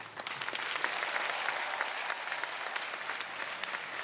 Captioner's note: audience cheering